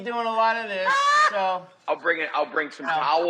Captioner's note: Rachael laughing